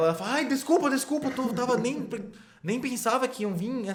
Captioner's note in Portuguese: gaguejando